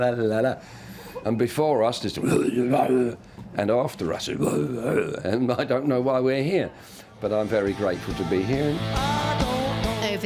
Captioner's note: growling